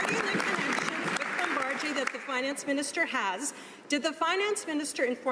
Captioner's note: some Applause